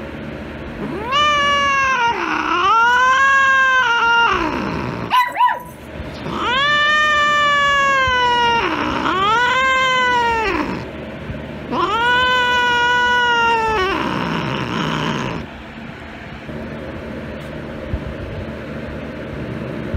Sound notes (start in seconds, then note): 0.0 meows loudly; 0.8 Caprice meows loudly; 0.8 Ella barking